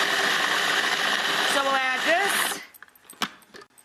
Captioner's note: food processor whirs